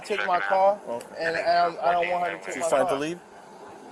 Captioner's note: radio chatter